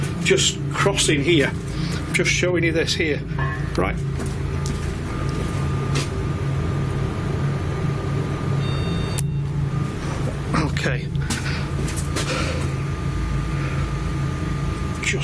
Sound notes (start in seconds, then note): 7.8 beeping; 12.9 rattling